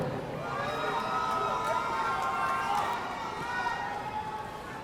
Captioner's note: audience cheering